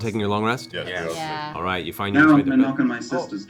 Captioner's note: various sounds of agreement